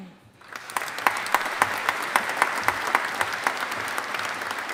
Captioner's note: audience applauding